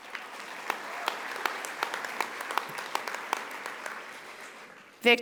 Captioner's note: audience applauding